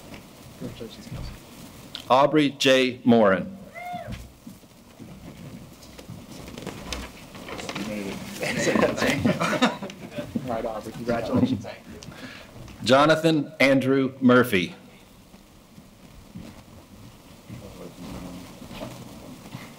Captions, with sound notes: Congratulations, Kelsey. Aubrey J. Morin. (cheering) (speaking and laughing faintly) Right on, congratulations. Thanks. Jonathan A. Murphy.